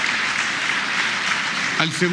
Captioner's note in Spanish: aplausos